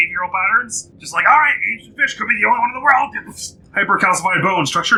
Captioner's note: laser noises